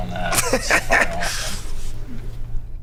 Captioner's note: laughs